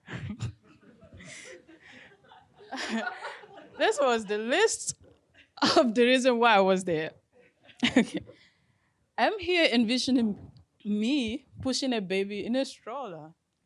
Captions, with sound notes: (audience laughing) This was the least of the reason why I was there. I'm here envisioning me pushing a baby in a stroller